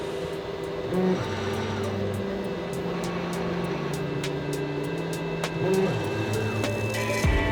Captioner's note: engine droning; techno music